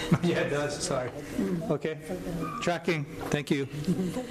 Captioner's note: chuckling